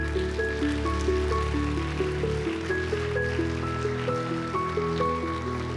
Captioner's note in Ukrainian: оплески